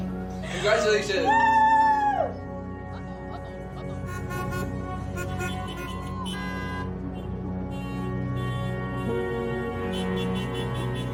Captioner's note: car horns honking